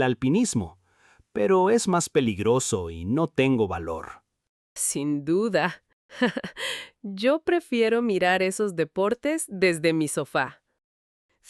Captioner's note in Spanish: risas